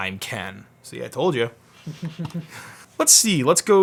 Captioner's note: laughs